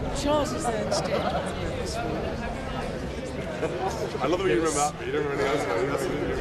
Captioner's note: soft talking